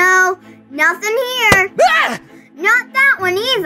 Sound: boy screams

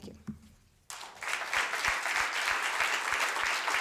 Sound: applause

